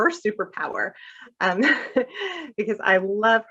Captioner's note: laughter